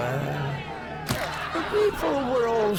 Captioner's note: plonk